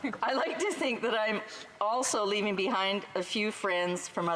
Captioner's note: laughter